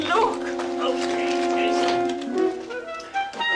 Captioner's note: grunting